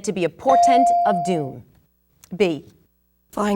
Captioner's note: bell dinging